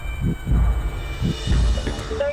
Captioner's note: sirens